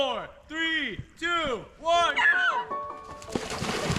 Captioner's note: shouting; boys shout; water splashing